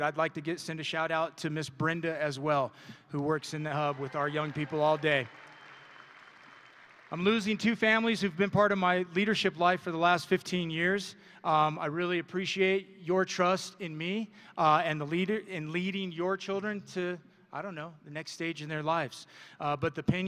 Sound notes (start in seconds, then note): 6.2 audience and graduates applauding